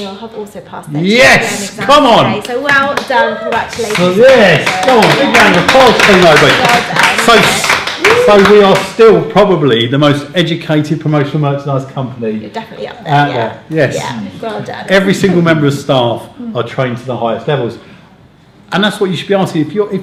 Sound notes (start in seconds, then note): 4.5 clapping